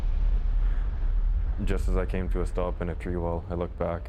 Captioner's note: voiceover